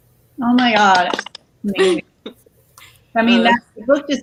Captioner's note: all clap